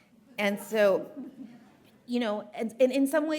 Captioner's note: audience chuckling